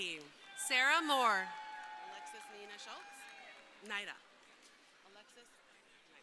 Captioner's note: crowd cheering